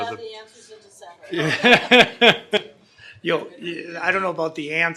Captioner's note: laughing